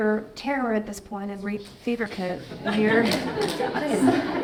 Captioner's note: audience laughing